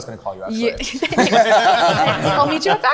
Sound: group laughing

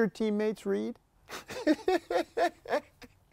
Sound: laughter

